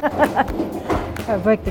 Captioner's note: laughs